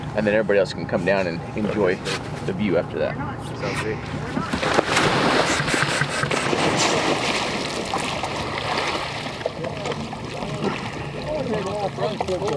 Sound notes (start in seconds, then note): 4.6 water splashing